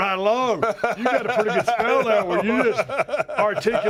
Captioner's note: laugh